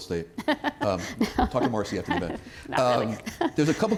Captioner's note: laughter